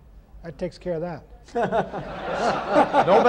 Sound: laughter

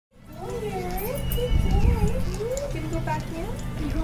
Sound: women's voices

